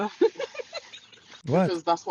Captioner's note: ketawa